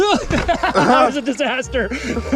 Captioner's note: laughs